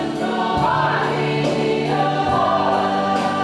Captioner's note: shouted